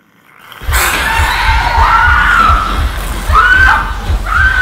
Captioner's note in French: Grognement; Kate hurle